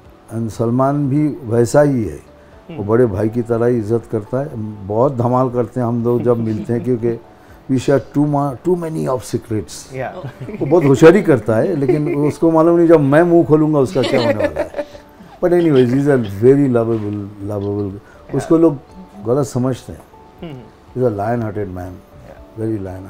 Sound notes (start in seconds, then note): 10.1 laughs